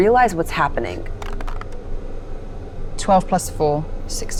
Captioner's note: dice clink